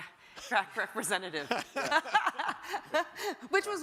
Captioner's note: panelists laugh